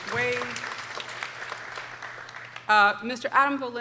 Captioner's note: people applauding